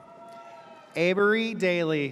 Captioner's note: audience cheers